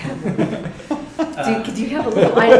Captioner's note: laughter